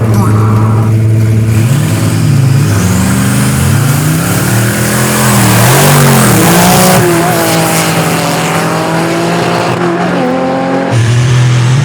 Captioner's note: engines revving